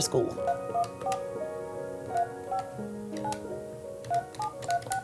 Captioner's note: phone beeping